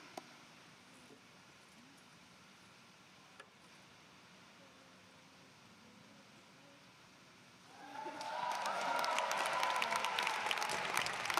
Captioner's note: applause